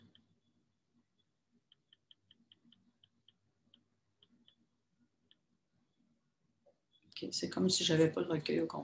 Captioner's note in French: silence